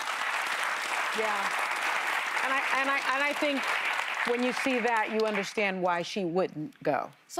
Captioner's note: cheers and applause